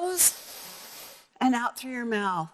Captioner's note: breathing